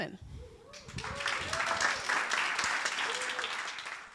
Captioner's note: audience applauding